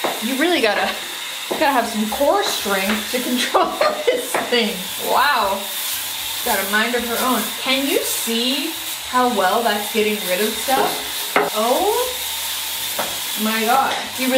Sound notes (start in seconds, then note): 3.3 laughing